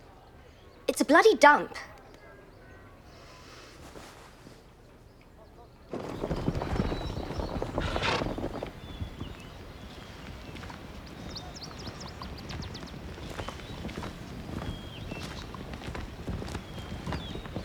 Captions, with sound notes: It's a bloody dump. (hooves thumping) (birds chirping)